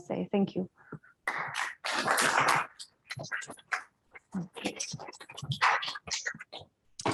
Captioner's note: audience clapping